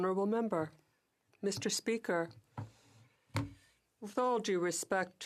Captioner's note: speaking french